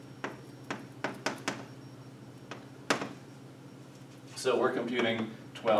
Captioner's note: chalk pen tapping